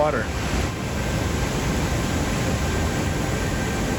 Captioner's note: water rushing